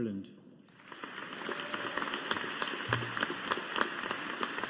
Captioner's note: audience applauding